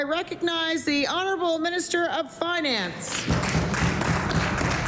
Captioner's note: applause